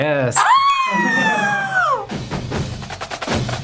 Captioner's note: shouts; drums playing